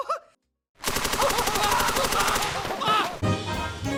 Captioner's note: Evil Mouse Laughing with a machine gun, unloading bullets